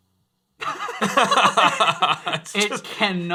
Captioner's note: laughing